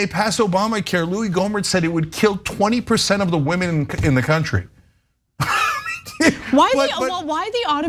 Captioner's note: laugh